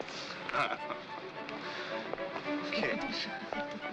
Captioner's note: chuckles